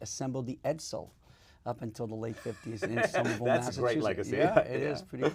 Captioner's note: laugh